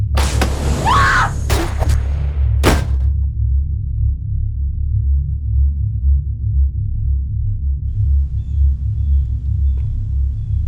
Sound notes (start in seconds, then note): 0.0 door bursts open; 0.8 Shelby screams; 2.6 shotgun blasts; 3.9 low droning music